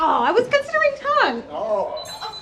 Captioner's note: blow thuds; groans